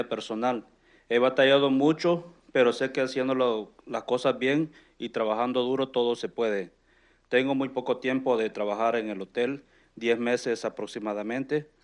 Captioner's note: speaking in Spanish